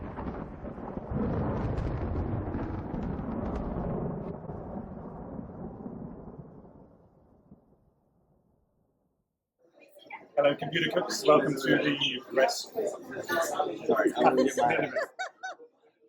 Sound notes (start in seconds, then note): 10.2 laughs; 13.0 laughter